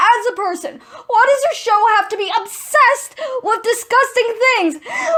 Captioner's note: gasping